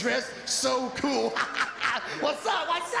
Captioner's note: laughs